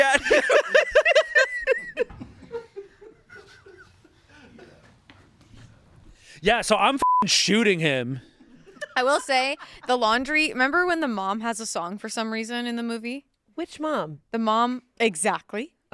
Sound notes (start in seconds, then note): 0.0 laughing; 7.0 beep